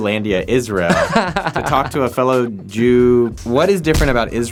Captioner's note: laughing